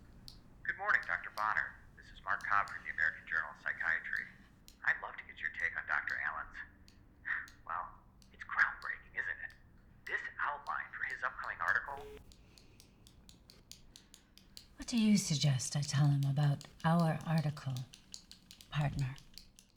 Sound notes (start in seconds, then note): 5.1 scoffs; 11.8 phone beeps; 12.1 pen clicking